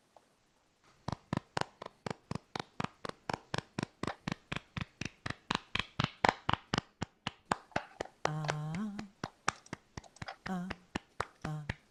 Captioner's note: humming